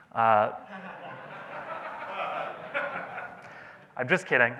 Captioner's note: audience laughs